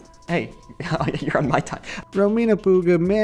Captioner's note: laughs